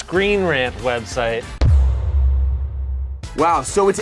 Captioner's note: dramatic thudding